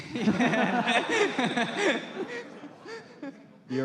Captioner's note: laughter